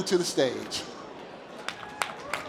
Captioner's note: applause